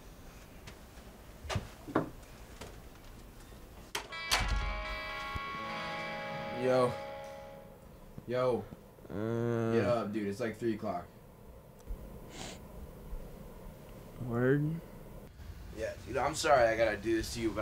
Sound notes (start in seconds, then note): 3.9 door latching; 4.0 slow somber music; 9.0 groaning